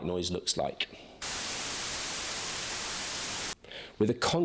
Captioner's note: static blaring